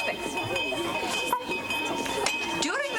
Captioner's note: bell ringing